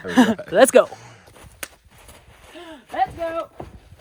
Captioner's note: hands slapping; hands slapping